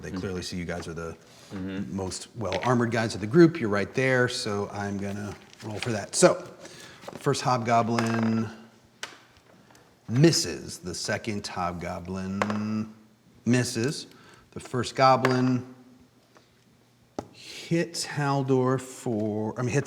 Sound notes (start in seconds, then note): 7.9 die clacking; 12.4 die thumping